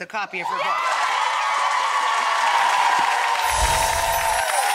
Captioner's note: audience applause